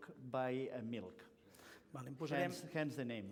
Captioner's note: non-english speech